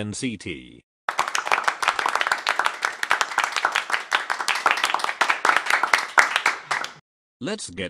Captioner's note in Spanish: aplausos